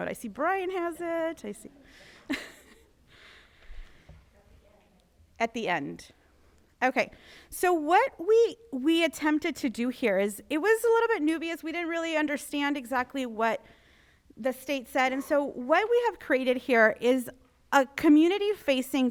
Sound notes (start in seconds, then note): 1.8 laughs